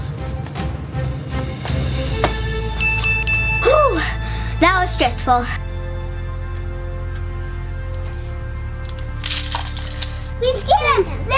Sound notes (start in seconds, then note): 2.8 ding ding ding; 7.1 suspenseful music; 9.4 clicking